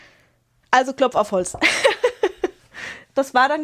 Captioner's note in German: gelächter